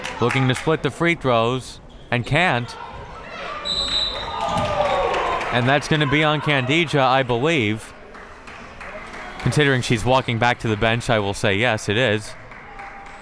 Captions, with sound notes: Looking to split the free throws and can't. (whistle tweeting) And that's gonna be on Khadija, I believe, considering she's walking back to the bench, I will say, yes, it is.